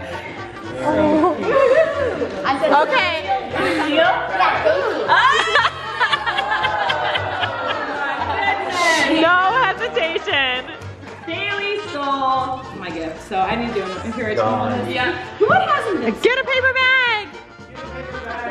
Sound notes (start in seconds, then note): 2.8 chattering; 6.8 laughing